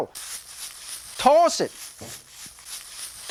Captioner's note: stir-frying noises